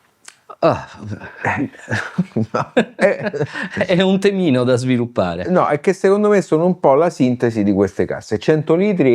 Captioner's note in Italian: risate